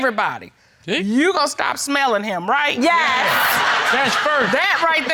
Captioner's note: laughing